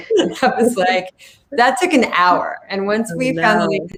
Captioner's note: laughing